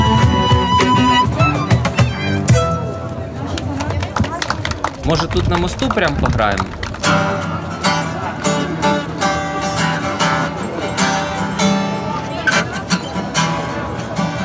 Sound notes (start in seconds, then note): 1.9 applause; 5.7 guitar